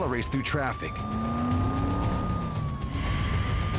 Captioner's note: siren wailing; car engine revving